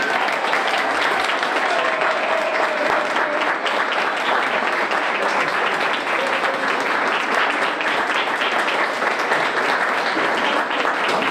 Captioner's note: applause